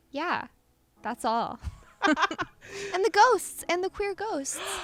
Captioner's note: laughter